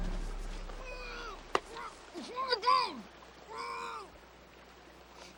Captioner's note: Luke shrieks; Luke screaming faintly